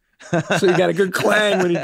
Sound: group chuckles

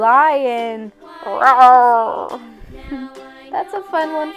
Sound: roar

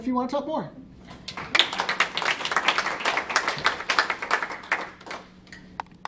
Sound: applause

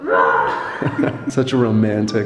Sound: both laughing

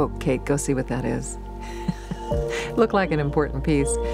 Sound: laughing

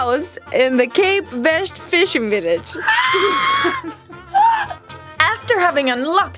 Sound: struggling to breathe from laughing

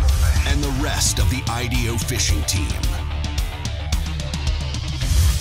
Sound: voiceover

